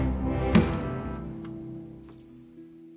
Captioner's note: conks guitar against stone